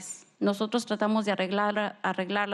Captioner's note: speaking spanish